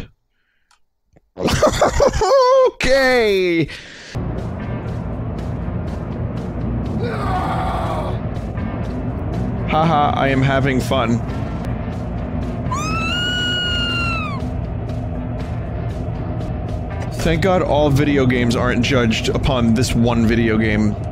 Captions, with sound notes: [Laughs] Okay "Haha, I am having fun" Thank God all video games aren't judged upon this one video game.